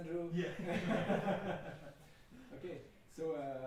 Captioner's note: laughing